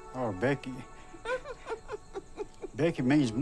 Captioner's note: laughs